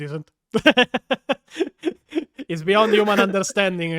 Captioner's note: italian laughing